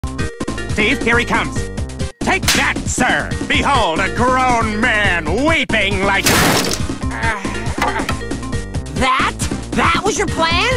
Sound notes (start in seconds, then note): 7.0 groans in agony